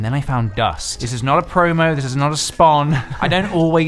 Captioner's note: laughs